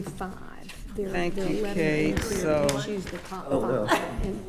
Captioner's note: speaking quietly